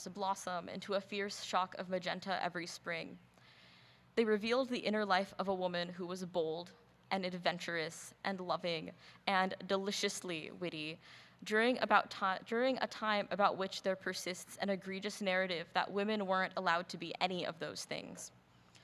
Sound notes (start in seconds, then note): none